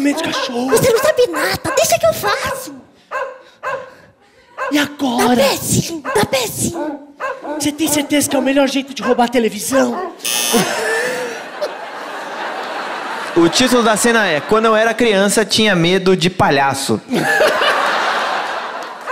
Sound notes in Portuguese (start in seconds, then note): 10.2 campainha